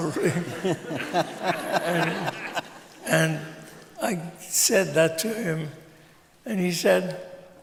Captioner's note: laughter